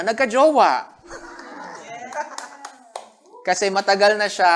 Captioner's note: laughter, clapping